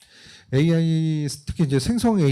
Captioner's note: speaking korean